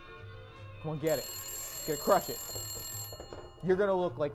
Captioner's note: phone rings